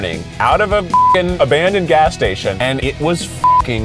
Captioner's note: beeps; beeps